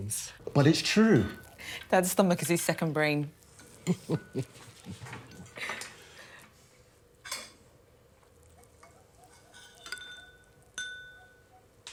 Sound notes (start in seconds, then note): 3.8 Evelyn chuckling; 7.6 spoons clinking